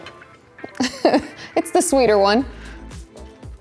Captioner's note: chuckles